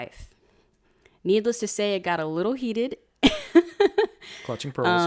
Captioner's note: laughs